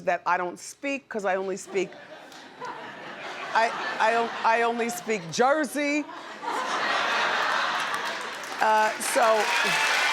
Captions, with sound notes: that I don't speak, 'cause I only speak. (audience laughs) I only speak Jersey. (audience laughs) So.